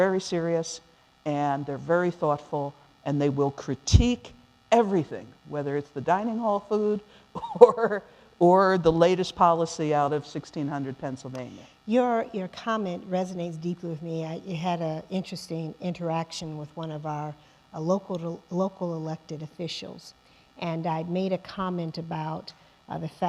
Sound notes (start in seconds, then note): 10.3 laughing